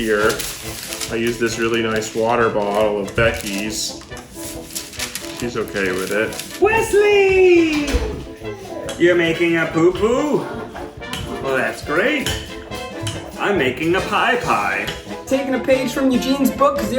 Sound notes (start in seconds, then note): 4.0 paper crinkling